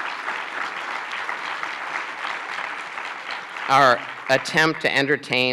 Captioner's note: applause